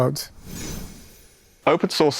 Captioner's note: graphics whooshing